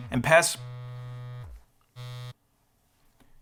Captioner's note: phone vibrates